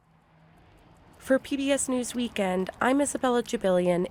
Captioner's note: voice-over